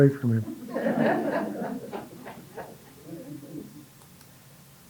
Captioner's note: audience laughing